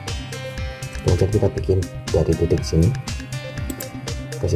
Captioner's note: click